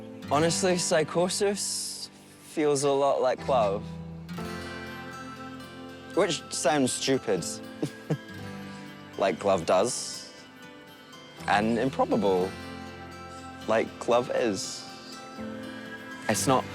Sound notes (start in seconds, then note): 7.7 chuckles